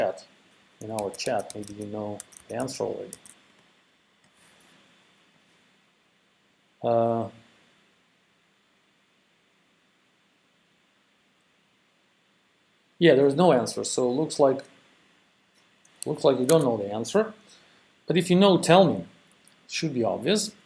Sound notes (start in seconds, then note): 3.1 pause